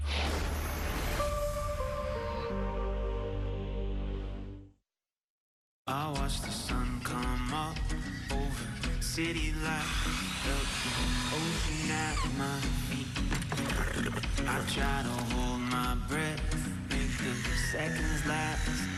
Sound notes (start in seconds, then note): 9.7 whirring